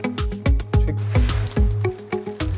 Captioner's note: rustling